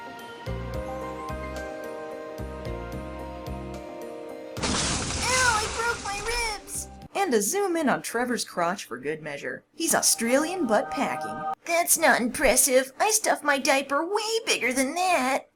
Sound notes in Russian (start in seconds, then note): 4.6 звук падения в воду